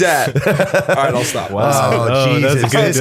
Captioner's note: laughter